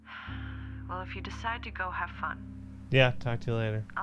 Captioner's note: sighs